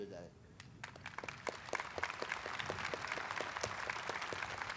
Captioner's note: audience applauding